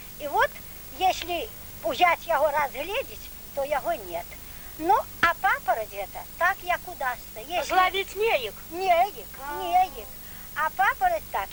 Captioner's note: laugh ironically